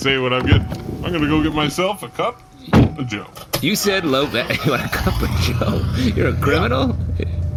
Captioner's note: vehicle starts up